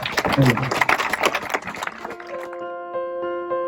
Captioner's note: claps